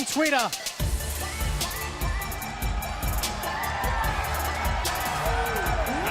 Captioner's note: crowd cheering